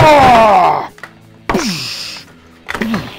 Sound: shouts

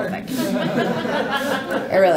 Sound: laughing

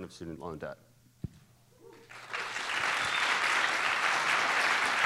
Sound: applause

